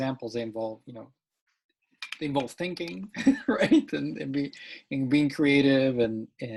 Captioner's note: laughs